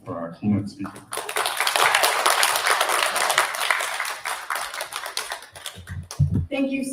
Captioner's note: applause